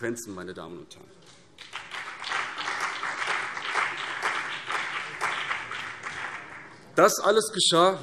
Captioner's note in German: Beifall BÜNDNIS 90/DIE GRÜNEN, CDU und vereinzelt AfD